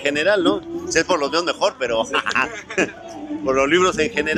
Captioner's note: laughting